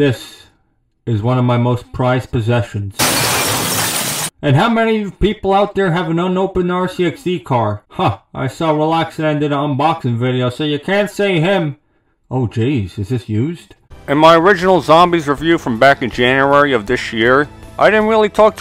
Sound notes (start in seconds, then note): 3.0 glass shattering